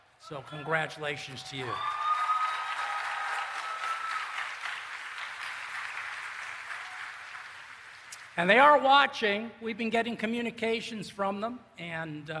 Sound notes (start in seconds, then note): 2.6 applause and Cheering